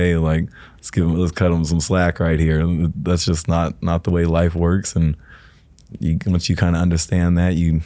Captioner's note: none